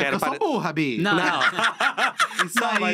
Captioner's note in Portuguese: risos